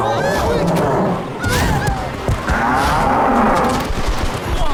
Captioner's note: bulls bellowing